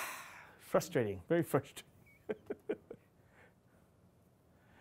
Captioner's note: laughing